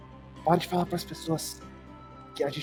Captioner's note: whispering